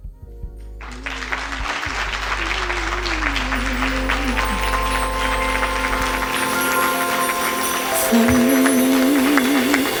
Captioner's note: applause